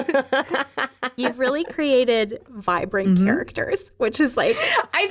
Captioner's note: laughing